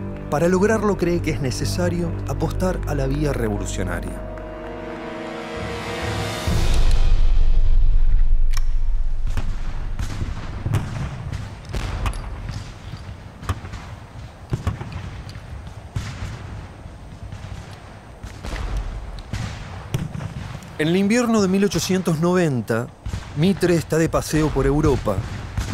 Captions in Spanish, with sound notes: Para lograrlo, cree que es necesario apostar a la vía revolucionaria. [Música de suspenso] [Explosiones, disparos] En el invierno de 1890, Mitre está de paseo por Europa